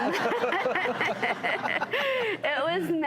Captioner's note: laughter